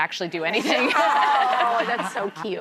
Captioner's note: audience laughs